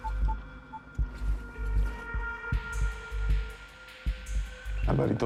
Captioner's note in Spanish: sonido al marcar en el celular